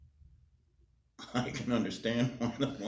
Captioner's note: laughs